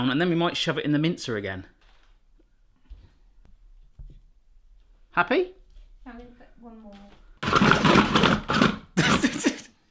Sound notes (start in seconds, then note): 7.4 mincer grinding; 8.9 laughing